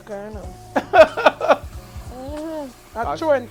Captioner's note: laughing